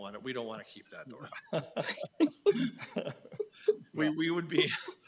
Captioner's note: group laughing